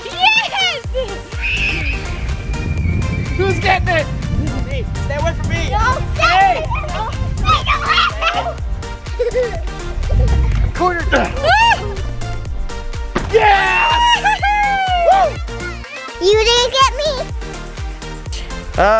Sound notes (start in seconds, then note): 1.4 screaming; 6.3 yelling; 13.4 cheering